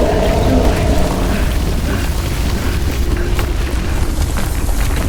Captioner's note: intense music; footsteps clomping; Pete panting